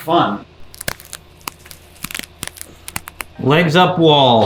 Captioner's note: bones cracking